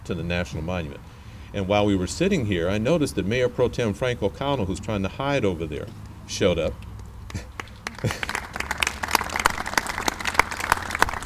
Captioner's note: clapping